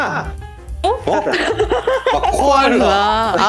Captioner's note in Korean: 악당의 웃음소리